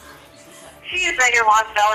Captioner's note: officer On Radio